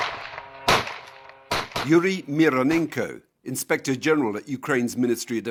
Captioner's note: missiles firing